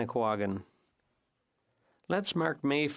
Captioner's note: speaking French